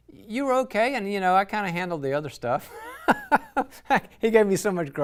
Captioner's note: laughs